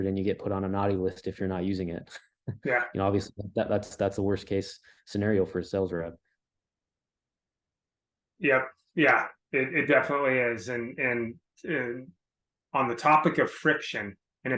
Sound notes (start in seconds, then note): 2.6 laughs